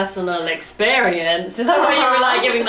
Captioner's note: laughs